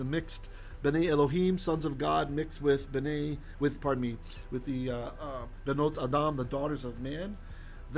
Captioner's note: Hebrew